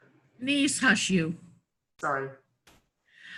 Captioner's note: foreign language